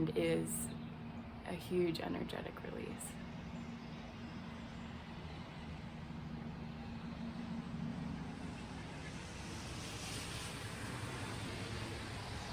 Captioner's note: traffic